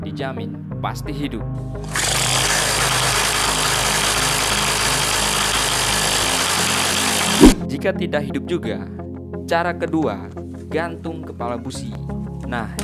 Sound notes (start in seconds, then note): 1.8 engine